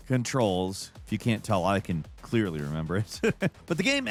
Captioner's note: laughs